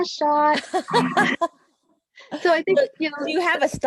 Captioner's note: laughing